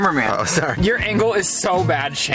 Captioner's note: laughs